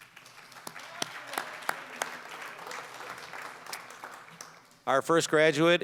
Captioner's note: applause